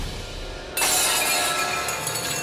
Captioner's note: clanging